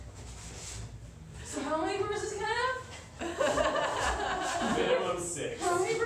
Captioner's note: laughter